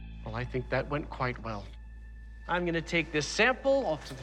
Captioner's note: none